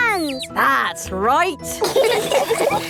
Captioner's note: all laughing